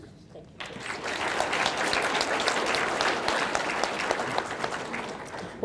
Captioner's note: audience clapping